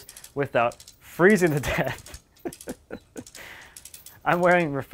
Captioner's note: laughing